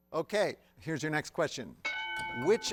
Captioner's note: bell dings